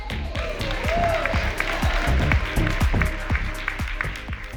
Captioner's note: group clapping